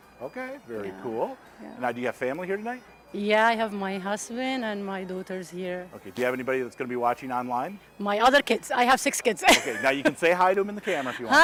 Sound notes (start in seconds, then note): 9.4 laughing